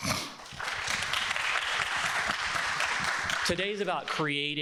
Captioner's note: people clapping